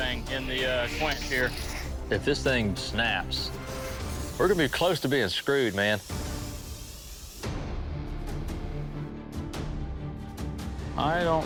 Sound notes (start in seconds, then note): none